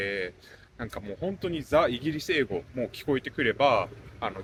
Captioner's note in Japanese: バーミンガム訛り